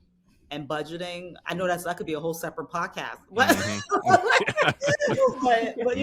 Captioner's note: laughing